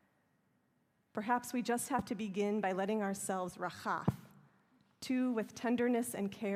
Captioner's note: hebrew